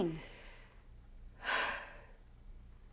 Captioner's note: sighs